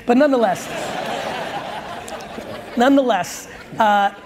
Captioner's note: audience laughs